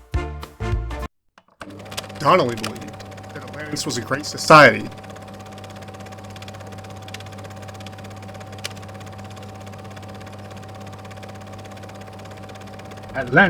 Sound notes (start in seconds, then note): 6.8 audio Distorts; 8.1 film Reel Rolling; 10.4 old Timey Radio Voice